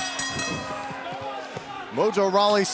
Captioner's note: bell ringing